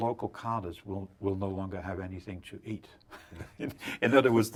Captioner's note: laughs